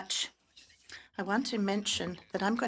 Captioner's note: speaking French